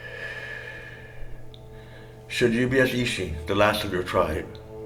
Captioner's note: voiceover